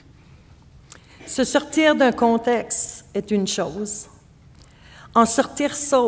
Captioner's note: speaking French